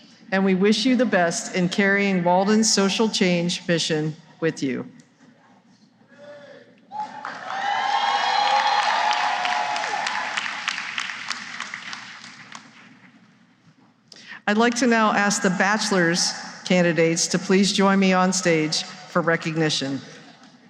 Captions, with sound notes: and we wish you the best in carrying Walden's social change mission with you. [cheering and applause] I'd like now to ask the bachelor's candidates to please join me on stage for recognition.